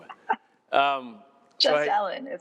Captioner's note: laughs